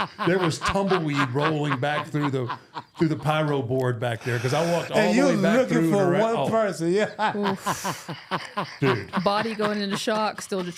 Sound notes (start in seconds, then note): 0.0 R-Truth laughing; 7.0 laughs